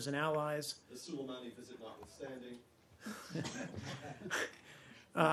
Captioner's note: laughter